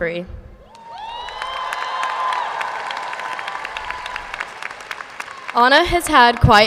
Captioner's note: audience cheers and applauds